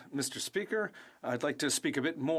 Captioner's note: speaking French